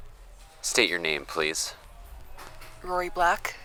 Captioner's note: click of recording stopping, and then starting